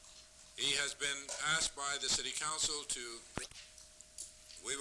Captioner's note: camera noise